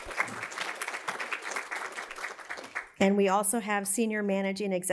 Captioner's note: applause